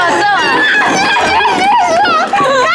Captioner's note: applause